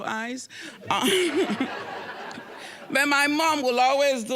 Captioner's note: audience laughing